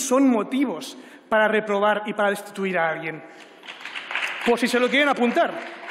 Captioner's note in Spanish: aplausos